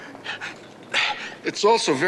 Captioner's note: grunting